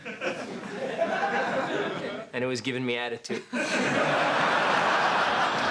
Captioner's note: laughs